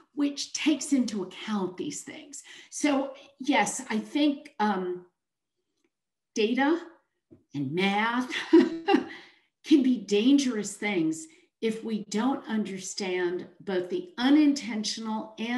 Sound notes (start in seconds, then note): 5.8 chuckles